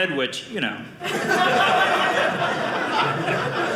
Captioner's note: audience laughing